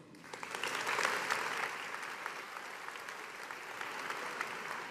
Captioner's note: audience applauding